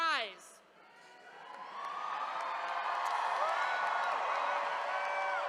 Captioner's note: attendees cheering